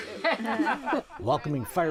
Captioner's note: laughing